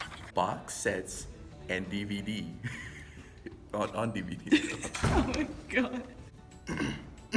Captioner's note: laughs